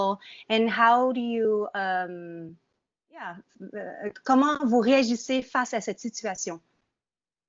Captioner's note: speaking in French